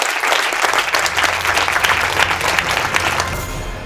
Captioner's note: applause